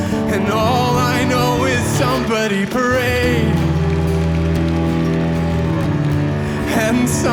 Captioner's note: audience Cheering